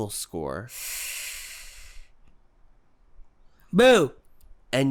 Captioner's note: sharp intake of breath